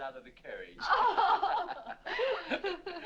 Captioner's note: laughter